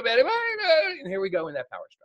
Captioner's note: whining noises